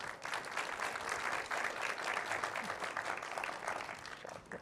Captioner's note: audience applauding